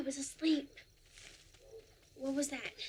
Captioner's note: leaves rustling